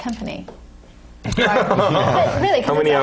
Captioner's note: laugh